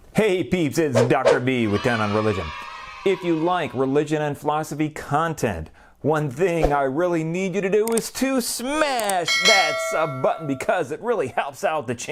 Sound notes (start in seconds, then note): 1.4 kids cheering; 9.2 bell ringing